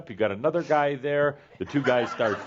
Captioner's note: laughter